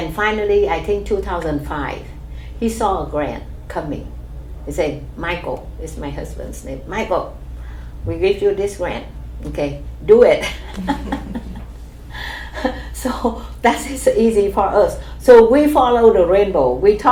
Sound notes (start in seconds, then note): 10.5 laughs